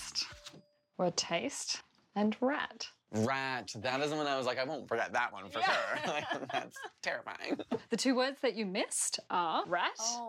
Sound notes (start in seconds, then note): 5.6 laughter